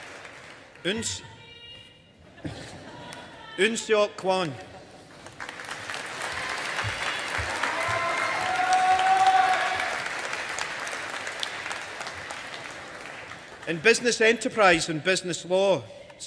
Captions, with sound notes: Eunseok Kwon. (AUDIENCE APPLAUDING) In Business Enterprise and Business Law,